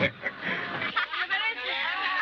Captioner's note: laughs